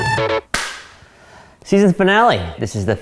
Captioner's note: clap